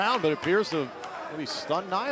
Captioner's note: crowd cheering